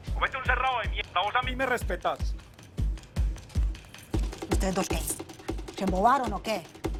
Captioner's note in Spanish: none